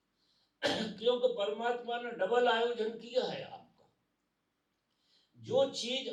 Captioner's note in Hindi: गला साफ़ करने की आवाज़